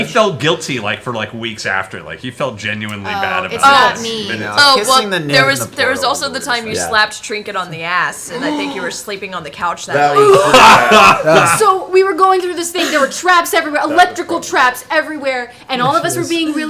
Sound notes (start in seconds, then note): 9.9 laughs; 10.1 gasps